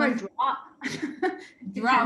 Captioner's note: laughter